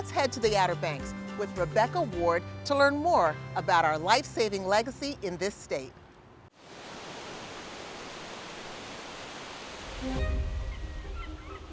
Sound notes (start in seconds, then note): 6.6 waves crashing